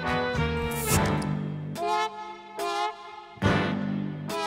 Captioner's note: soda fizzing; sultry jazz music